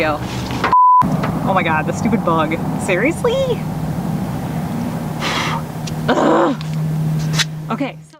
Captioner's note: groans